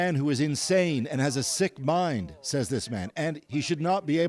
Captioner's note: speaking alternate language